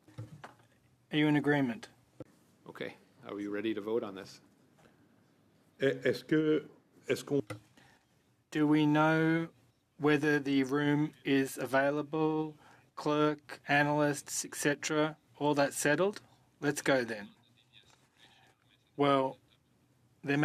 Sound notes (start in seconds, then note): 11.9 speaking French